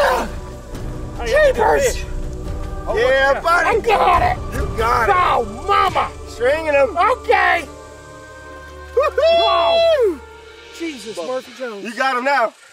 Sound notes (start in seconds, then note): 8.3 yelling